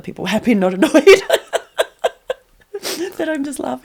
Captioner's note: laughter